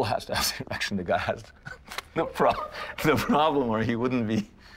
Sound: giggles

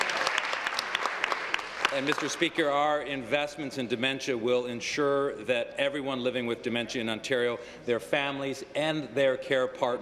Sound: applause

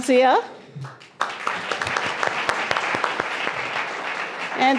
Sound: applause

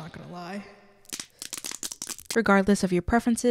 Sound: obnoxious bone cracking

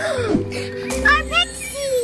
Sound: mom gasping

